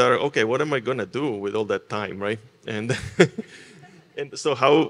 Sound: laughs

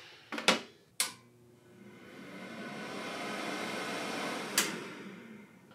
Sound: dehydrator humming

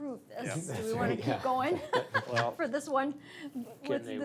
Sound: laughs

